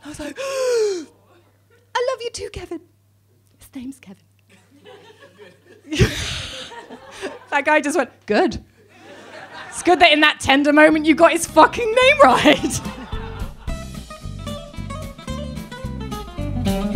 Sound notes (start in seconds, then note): 0.0 gasps; 4.6 audience laughing; 6.2 laughs; 12.1 laughs; 13.6 upbeat guitar music